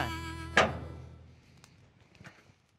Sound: unlocking gate

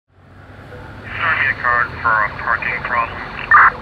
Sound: police radio chatter

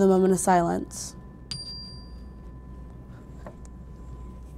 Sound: bell dinging

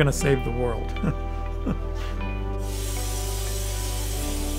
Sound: laughs

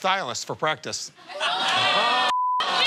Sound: audience ohhs

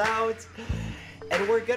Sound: inhale

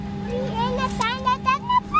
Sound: baby talk

